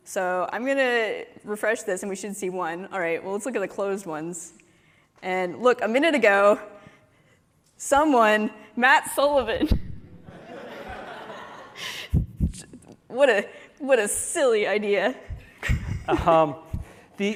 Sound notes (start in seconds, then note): 10.2 laughter